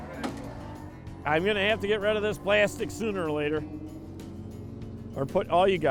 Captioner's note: boat engine roaring